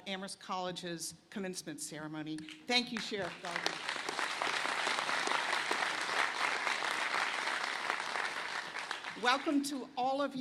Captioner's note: applause